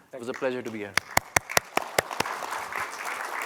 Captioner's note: applause